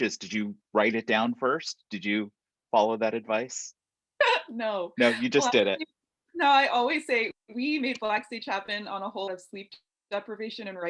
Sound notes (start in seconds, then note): 5.0 chuckles